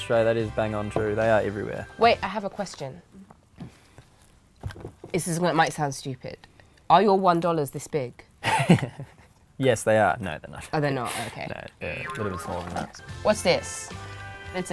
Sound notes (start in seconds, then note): 8.9 laughing; 11.8 boing sound